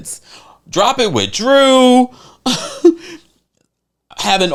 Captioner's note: chuckles